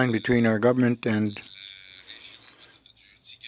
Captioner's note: speaking French